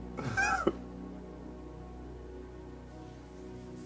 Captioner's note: Lance chuckling; somber music continues